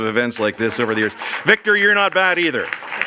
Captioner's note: audience applauds